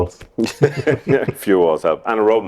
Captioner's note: laughter